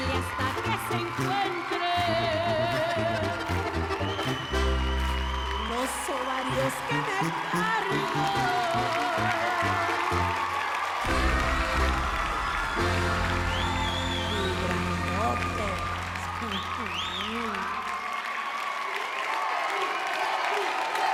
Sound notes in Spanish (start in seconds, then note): 10.2 Aplausos; 11.1 Silbidos; 12.1 Gritos y exclamaciones; 17.2 Aplausos